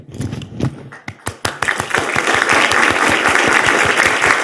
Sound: audience applauding

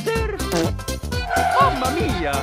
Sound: fart

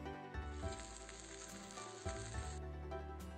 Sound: frying cheese

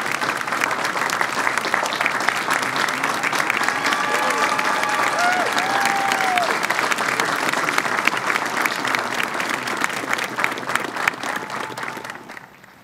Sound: cheering and applause

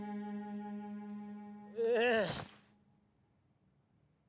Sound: groans

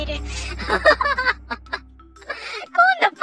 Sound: laughs

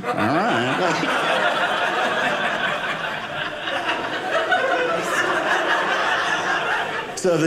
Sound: audience laughing

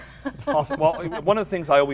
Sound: laughs

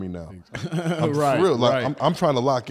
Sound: laughs

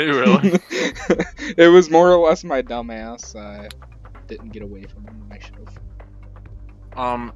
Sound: laughs

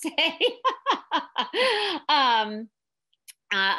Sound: laughing

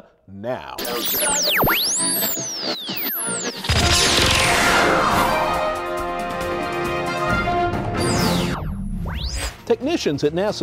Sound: sound Effects

